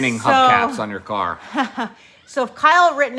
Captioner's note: chuckling